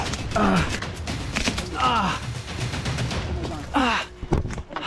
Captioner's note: grunting